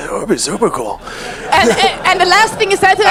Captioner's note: audience laughs